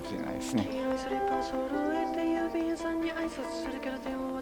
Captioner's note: birdsong